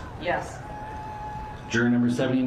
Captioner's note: distant cheering